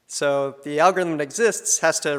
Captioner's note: none